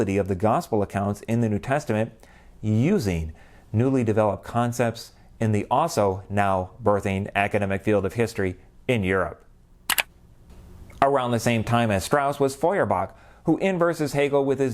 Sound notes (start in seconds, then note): 9.8 mouse click